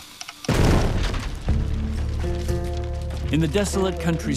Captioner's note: explosion